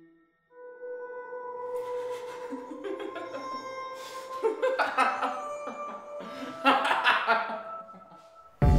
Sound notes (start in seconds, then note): 1.8 Slick laughing hysterically